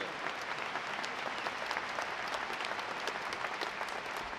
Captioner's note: audience applauding